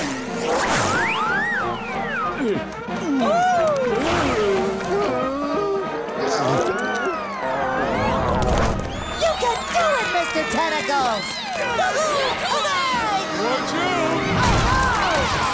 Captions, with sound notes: Ohh! Hmm? [gulping] You can do it, Mr. Tentacles! [cheering] - Watch out! - Oh, no!